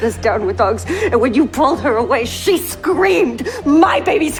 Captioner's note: shouting